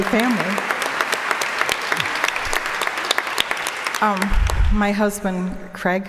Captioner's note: applause